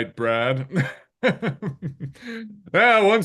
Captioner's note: chuckling